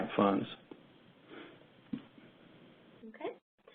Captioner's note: 2 seconds pause